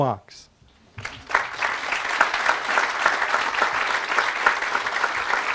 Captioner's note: audience applauding